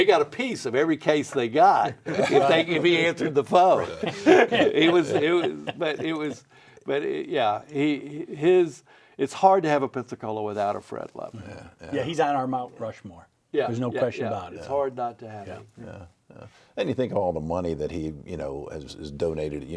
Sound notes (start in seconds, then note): 4.4 all laughing